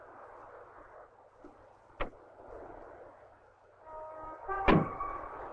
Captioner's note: door clicks and bangs